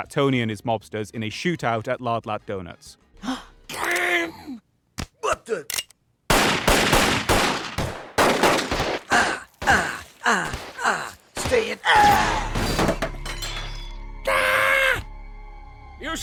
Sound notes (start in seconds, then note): 3.2 gasp; 6.3 gunshots; 12.0 Disco Stu screams and falls onto table; 14.2 Marge screams